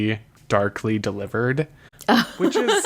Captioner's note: laughs